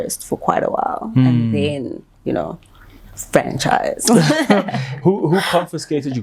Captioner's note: laughs